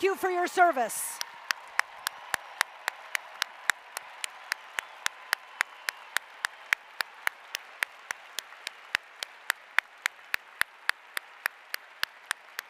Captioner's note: applause